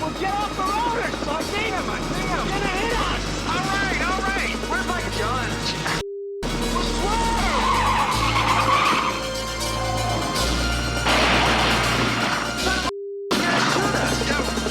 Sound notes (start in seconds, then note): 6.4 tires screeching; 11.0 guns firing